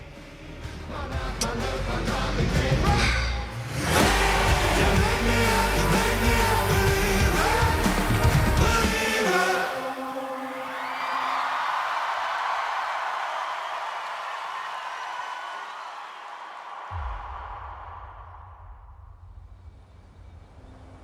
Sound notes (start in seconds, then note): 10.6 alegria da multidão